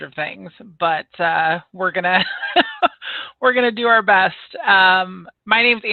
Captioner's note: laughs